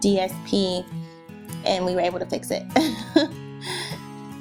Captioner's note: laughing